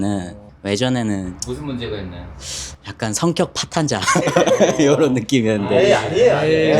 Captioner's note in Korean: 콧방귀